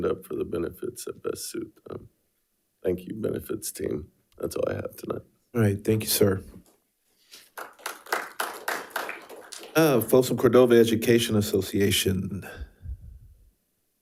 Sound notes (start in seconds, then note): 7.4 audience applauding